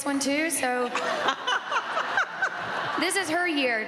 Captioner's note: all laughing